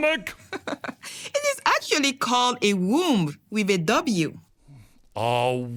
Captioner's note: laughs